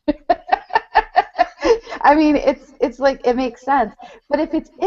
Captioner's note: laughs